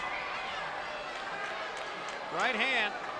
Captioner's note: spectators cheering